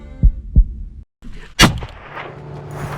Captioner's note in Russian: выстрел